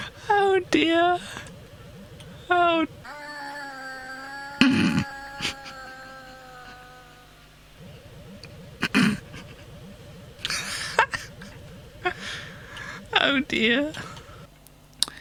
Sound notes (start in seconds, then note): 4.5 more sound effect and laughing